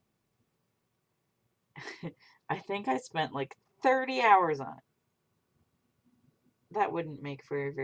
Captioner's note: laughs